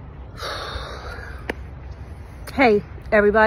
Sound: exhales deeply

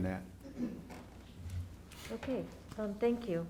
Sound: clears throat

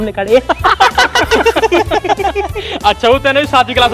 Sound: laughing

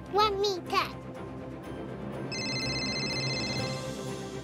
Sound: phone ringing

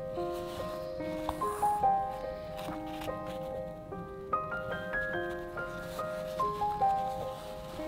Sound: classical music; fabric rustling

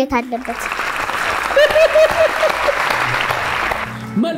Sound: applause; laughter

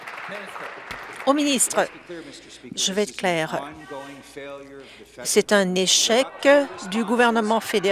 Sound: applause

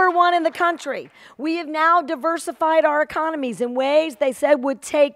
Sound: applause

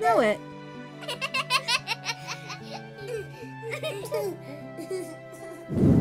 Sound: kids laughing

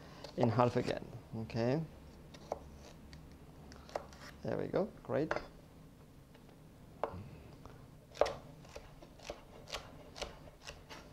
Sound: cutting sounds

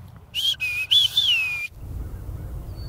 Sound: whistles

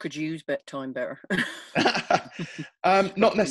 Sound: laughing

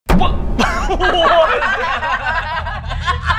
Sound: laughter

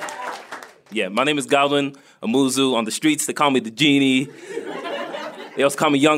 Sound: applause and crowd noise; laughter

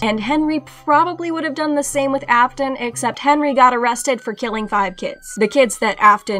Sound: police sirens

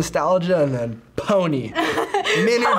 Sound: laughs

